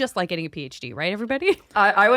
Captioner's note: chuckles